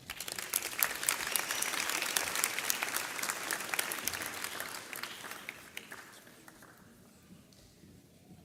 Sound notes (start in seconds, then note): 0.0 audience applauds